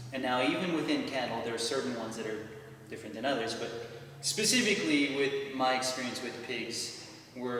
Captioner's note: none